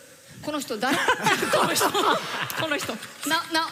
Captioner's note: laughter